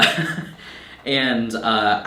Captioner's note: laughing